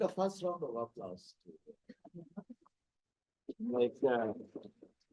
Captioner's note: audio cutting out